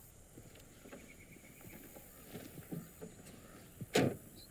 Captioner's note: birds singing